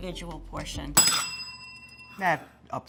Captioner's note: bell dinging